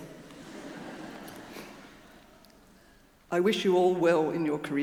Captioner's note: audience laughing